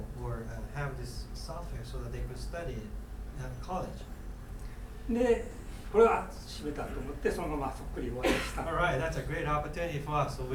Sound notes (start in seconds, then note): 5.2 speaking in foreign language; 8.2 coughing